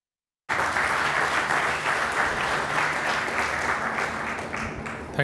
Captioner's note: applause